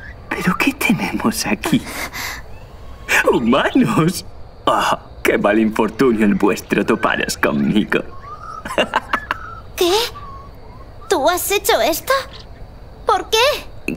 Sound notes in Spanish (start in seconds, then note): 9.0 ríe